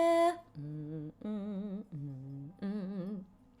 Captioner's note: humming